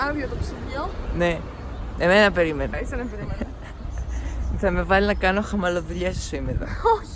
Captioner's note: haha